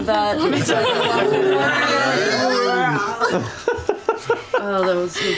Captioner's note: roaring; laughter